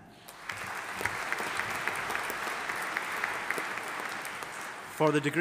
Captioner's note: audience applauding